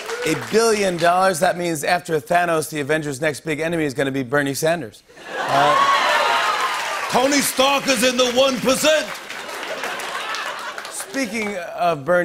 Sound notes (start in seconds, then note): 5.5 As Bernie Sanders; 9.1 normal voice